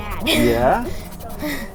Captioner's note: chuckles